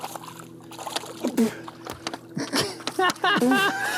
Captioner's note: spits; laughs